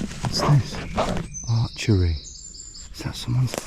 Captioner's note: none